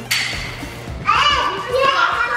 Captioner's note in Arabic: أطفال يصرخون ويلعبون